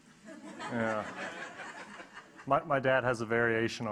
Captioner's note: audience laughing